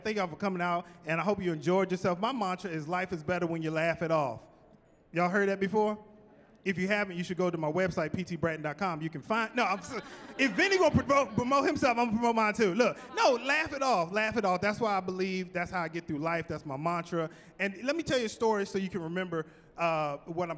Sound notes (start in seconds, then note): 9.4 chuckling